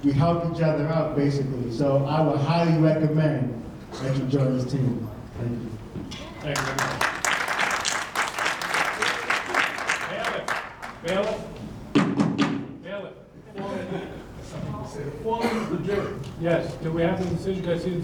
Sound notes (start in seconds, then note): 6.4 audience clapping